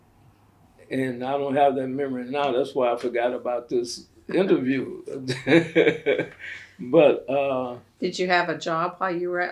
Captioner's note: laughs